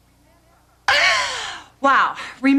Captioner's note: sneezes